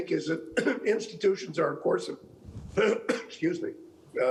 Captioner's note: clearing throat